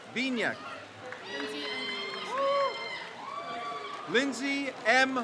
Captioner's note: crowd cheers